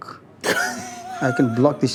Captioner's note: laughs